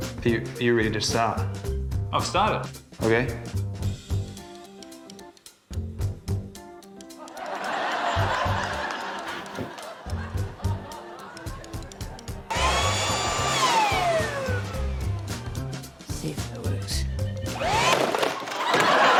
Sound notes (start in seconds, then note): 7.2 laughter; 12.5 whirring stops; 12.5 leaf blower whirrs; 17.5 leaf blower whirrs, clattering, whirring stops